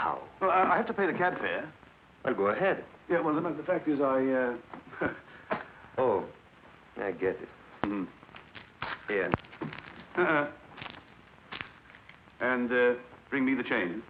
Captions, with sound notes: I-- that is, uh oh, we'll manage somehow. - Well, I-- I have to pay the cab fare. - Well, go ahead. Yeah, well, no, no, the fact is I, uh... [chuckles] Oh. I get it. Mmhm.